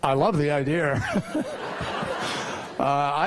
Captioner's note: laughter